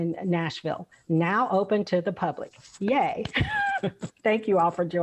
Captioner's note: laughs